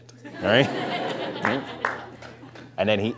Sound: laughter

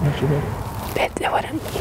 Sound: whispering

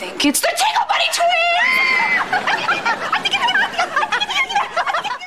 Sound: laughing

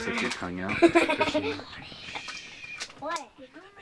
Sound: laughter

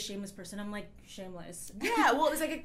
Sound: laughs

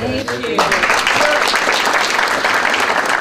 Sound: applause

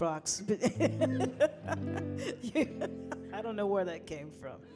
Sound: laughing

